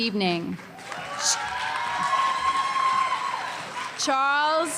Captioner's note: applause; loud cheering